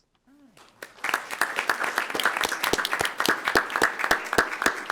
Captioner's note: attendees applauding